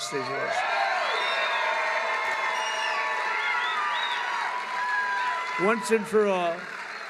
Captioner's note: applause